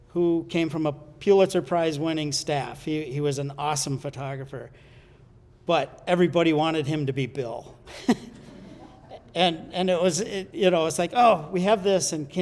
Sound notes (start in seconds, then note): 7.8 chuckles